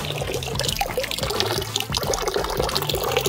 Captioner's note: tap sound